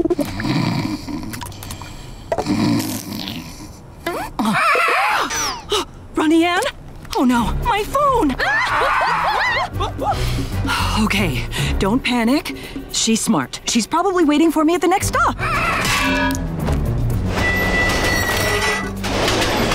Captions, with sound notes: [snoring] [squawking, gasping] Ronnie Anne? Oh no, my phone. [screaming] Okay, don't panic, she's smart, she's probably waiting for me at the next stop. [squawking]